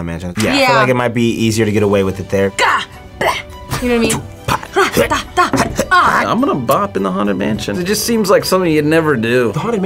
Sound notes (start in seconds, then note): 3.6 both grunting